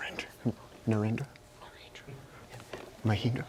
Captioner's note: whispering